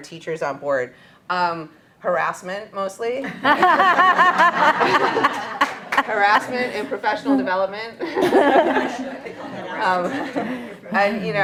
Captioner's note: laughter